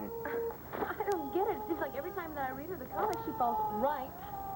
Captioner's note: starr cries